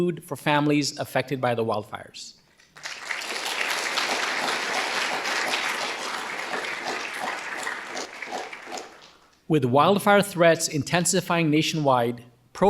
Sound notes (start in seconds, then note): 2.7 audience applauding